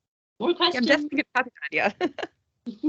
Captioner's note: laughing